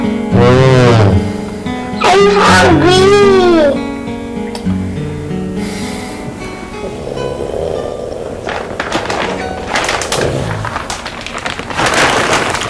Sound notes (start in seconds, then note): 4.6 exhales; 8.8 rustles